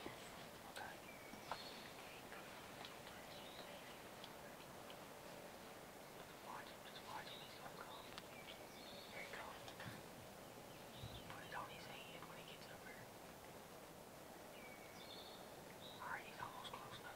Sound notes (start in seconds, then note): 0.3 whispers; 5.4 birds chirping